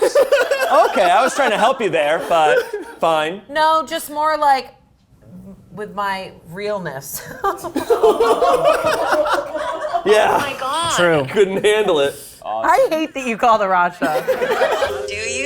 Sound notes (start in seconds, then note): 0.0 all laughing; 6.8 laughs; 7.7 all laughing; 14.0 all laughing